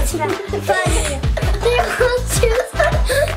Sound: laughing

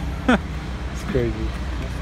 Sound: laughs

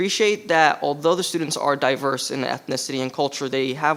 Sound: none

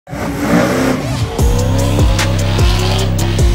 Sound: engine revving; upbeat hiphop music

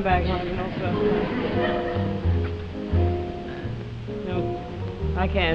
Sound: audience laughing

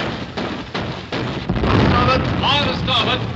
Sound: explosion

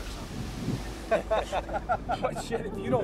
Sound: laughter

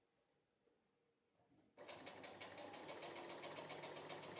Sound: sewing machine whirring

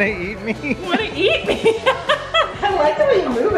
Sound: laughs

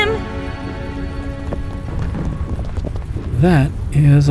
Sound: slavers running

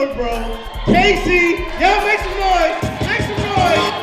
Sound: audience cheers

